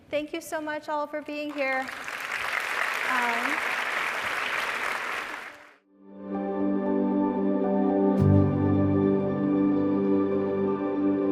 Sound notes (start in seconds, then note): 1.6 audience applauding; 6.0 gentle music